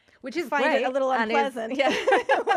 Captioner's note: laughing